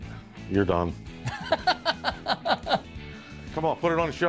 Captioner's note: laughs